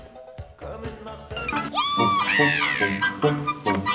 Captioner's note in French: voix de fausset